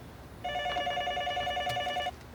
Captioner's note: phone ringing